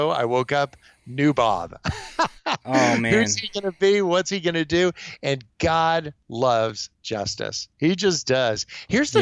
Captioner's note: laughs